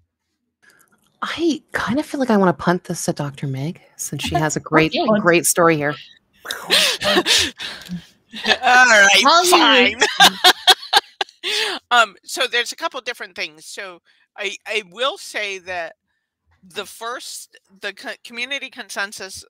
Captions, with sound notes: - I kind of feel like I wanna punt this to Dr. Meg since she has a great, great story here. (all laughing) - All right, fine. (laughs) So there's a couple different things. I will say that the Community Consensus Awareness Project